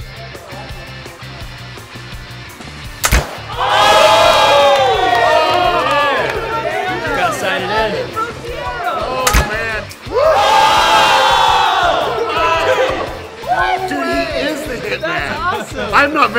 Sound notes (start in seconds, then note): 3.5 screaming; 9.2 voiceover; 10.1 screaming